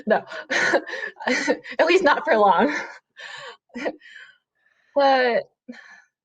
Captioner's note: giggles